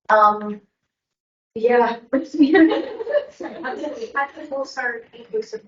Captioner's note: everyone laughing